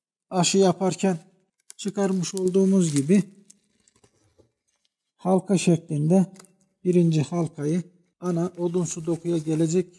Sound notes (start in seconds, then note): 3.4 crackling and bird sounds